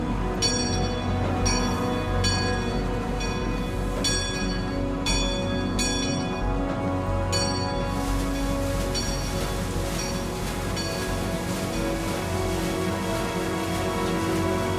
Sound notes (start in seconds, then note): 9.1 waterwheel splashing